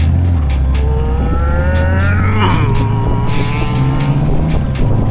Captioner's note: realistic engine noises